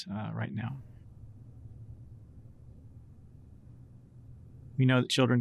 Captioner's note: silence